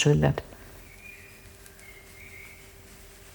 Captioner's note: birds chirping